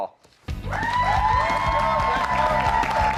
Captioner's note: cheers and applause